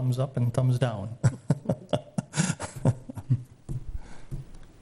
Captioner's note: laugh